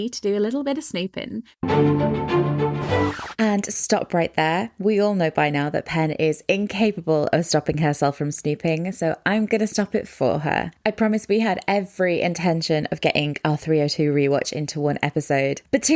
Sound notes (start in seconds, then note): 1.6 upbeat music; 2.9 record scratch